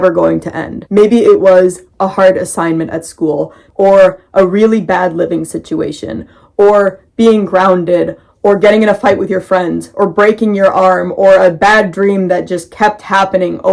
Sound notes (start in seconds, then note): none